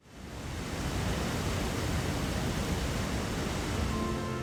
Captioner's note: water flows